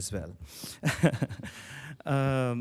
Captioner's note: chuckles